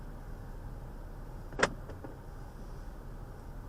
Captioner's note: driver locks doors